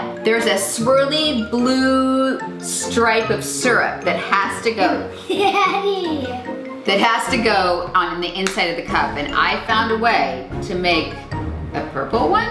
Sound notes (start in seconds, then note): 5.0 laughs; 8.4 claps